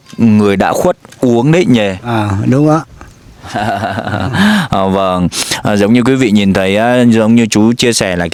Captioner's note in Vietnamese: tiếng cười